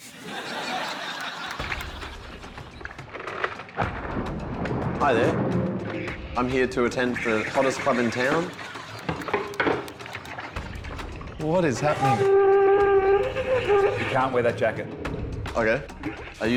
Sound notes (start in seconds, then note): 0.0 laughter; 3.7 thunder rumbles; 8.8 banging, water splashing